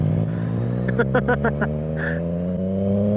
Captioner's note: laughter